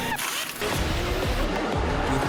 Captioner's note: pit crew working